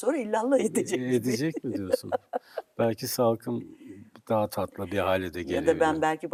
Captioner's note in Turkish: kahkaha